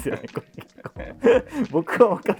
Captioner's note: laughing